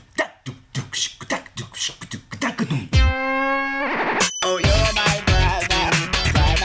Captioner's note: beatboxing